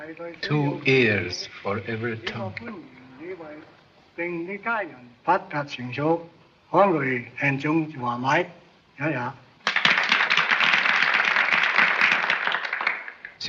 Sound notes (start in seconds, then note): 3.9 speaks chinese; 9.6 applause; 13.2 speaks chinese